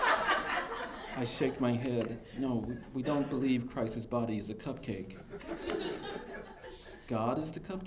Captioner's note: laughter; laughter